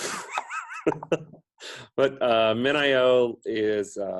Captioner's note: laughs